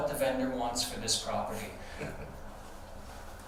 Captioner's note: snickering